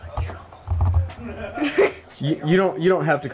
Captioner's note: child laughing